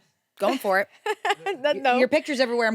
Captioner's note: laughs